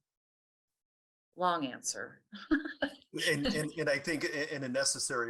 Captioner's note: laughs